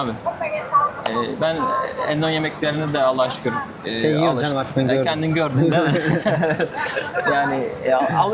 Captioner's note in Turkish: kahkaha